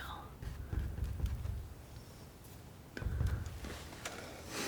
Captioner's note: scratching